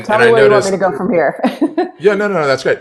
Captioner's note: laughs